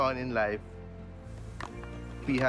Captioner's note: flame hissing